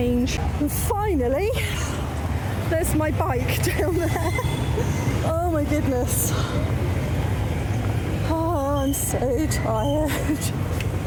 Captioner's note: laughing